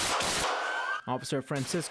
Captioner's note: sirens